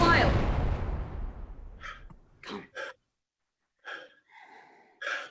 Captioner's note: trumpets. Cannon; grunting